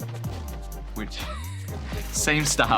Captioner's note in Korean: 웃음